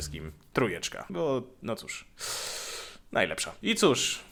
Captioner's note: deep breath